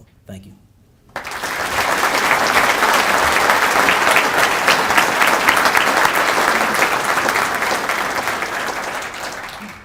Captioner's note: applause